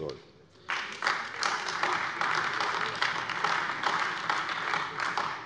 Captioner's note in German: Beifall AfD